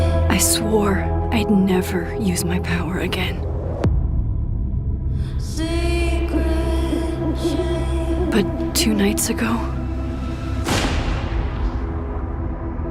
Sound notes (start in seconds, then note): 6.7 owl hooting; 10.6 gunshot